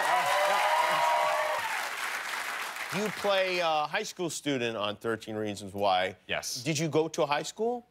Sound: cheers and applause

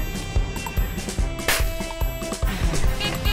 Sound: sfx: fire cracker

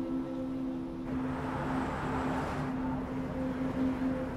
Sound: bus hums

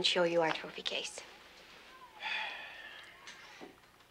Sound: Jimmy sighs

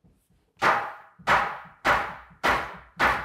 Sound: hammering

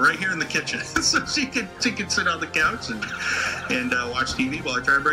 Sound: laughs

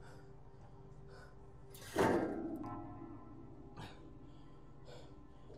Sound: aluminum scrapping against metal

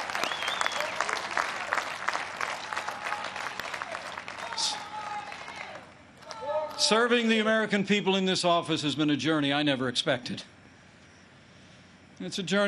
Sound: applause

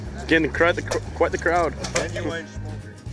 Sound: stutters

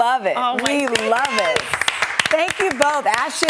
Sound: hosts clapping

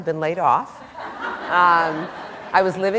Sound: laughter

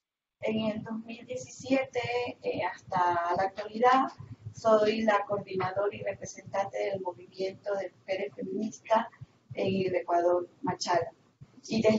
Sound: Spanish

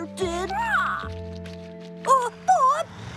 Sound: squawk!

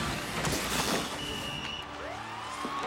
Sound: whistle Blows, Siren Blares; crowd Cheering

